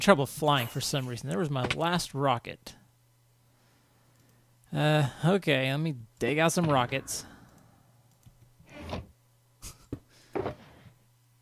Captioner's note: sigh